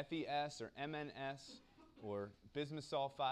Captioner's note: cough